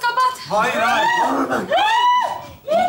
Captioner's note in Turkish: Bağrışmalar